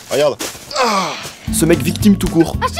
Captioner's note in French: gémissement